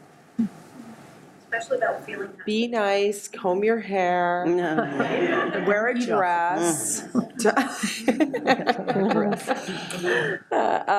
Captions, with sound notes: Be nice, comb your hair, wear a dress. (laughs)